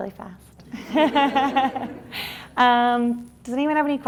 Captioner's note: laughs